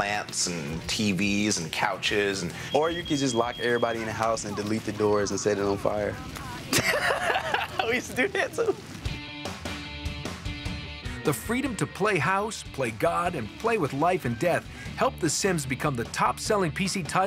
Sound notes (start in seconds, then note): 6.2 laughs